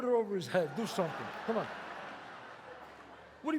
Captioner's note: audience laughs